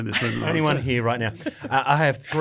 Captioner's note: chuckles